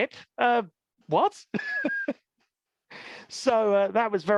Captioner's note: laughs